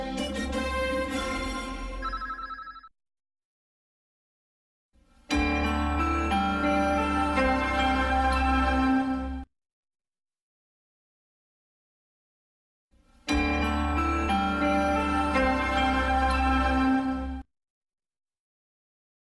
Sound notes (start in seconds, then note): 2.0 communication dial sounds; 5.4 90s news flash music plays; 13.4 90s news flash music continuing